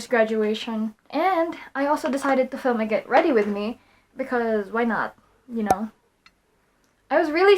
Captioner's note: pop SFX